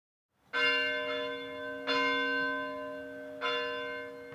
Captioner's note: bell ringing